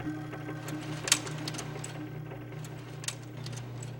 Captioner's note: clicking